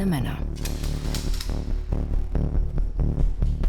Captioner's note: rifle is loaded